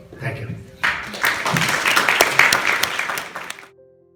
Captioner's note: applause